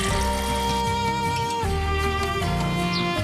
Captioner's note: water pouring